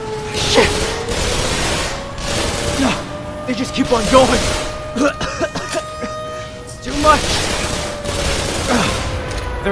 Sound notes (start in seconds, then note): 4.9 coughing